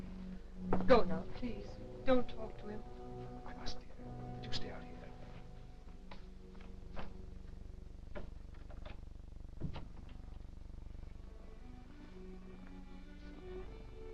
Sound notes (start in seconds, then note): 9.6 door thudding; 11.2 grim somber music